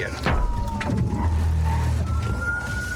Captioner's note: thuds